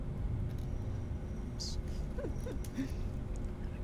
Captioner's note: chuckles softly